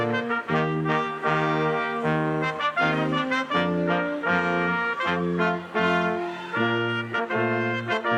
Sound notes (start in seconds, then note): 0.0 lively music continues; 0.0 crowd cheering